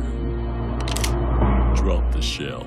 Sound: cocks gun

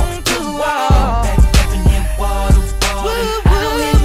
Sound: woo, woo, woo

